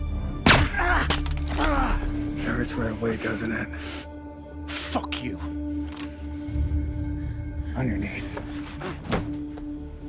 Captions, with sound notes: (gun firing) (assassin groaning) - It hurts right away, doesn't it? - Fuck you. - On your knees.